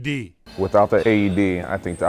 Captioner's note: atmosphere humming